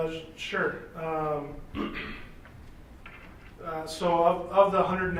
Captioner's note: clears throat